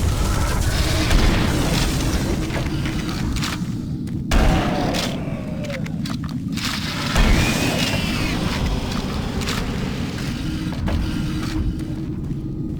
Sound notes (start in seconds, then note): 0.1 gun firing; 7.9 ominous music